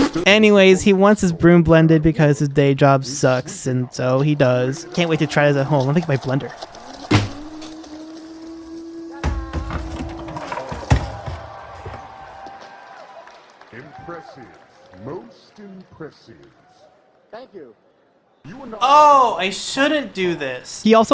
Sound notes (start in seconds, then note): 7.0 dropping sound; 11.9 crowd cheering